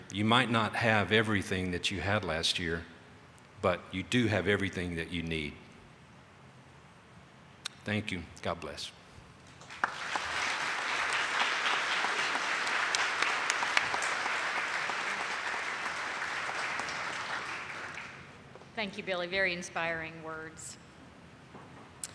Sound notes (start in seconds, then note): 9.5 audience applauding